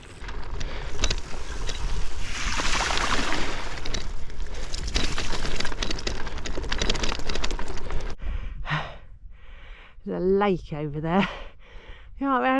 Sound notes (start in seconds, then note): 0.1 wheels going through water